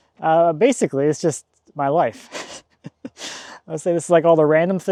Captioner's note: laughs